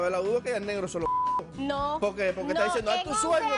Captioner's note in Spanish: Bip